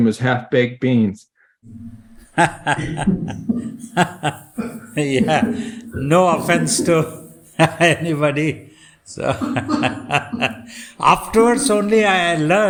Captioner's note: laughs